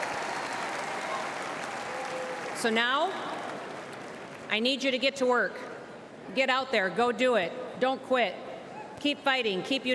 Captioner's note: applause